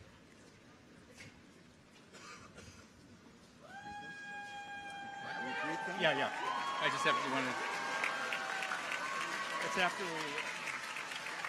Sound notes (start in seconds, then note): 3.6 people cheer; 5.2 audience applauds